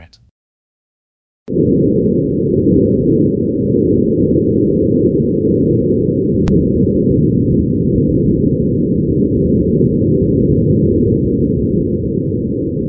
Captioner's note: Recording: Martian wind — Perseverance SuperCam microphone, Sol 1